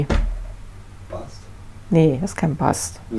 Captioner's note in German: Aus dem Off